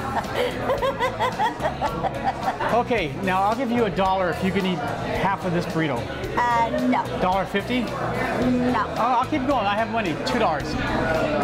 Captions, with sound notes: (laughs) - Okay, now I'll give you a dollar if you can eat half of this burrito. - Ah, no. - Dollar 50? - No. - I'll keep going, I have money, two dollars.